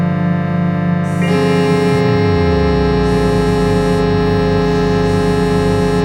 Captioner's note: phone ringing